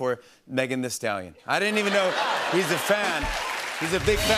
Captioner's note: laughter